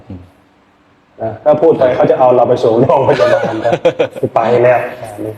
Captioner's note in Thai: เสียงหัวเราะ